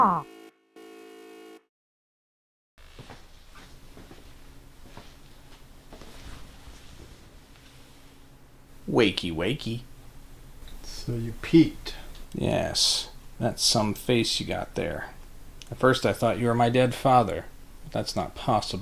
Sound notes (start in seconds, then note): 0.2 beeping; 2.9 footsteps